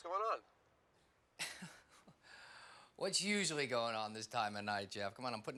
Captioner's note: laughs